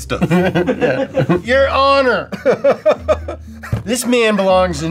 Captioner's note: laughs